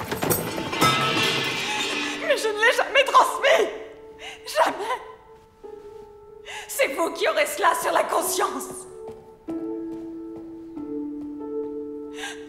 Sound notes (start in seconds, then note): 0.0 metal clatters; 9.4 soft piano music